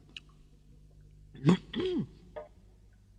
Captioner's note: Toad gulps